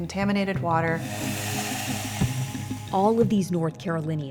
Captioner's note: water splashing